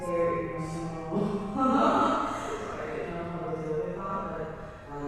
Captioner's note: chuckles